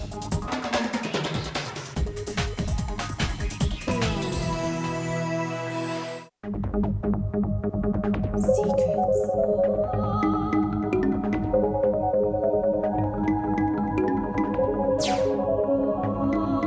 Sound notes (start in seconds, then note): 0.1 upbeat cryptic music; 6.8 bells chiming